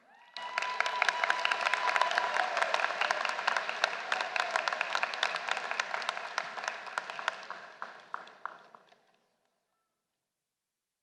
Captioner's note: applause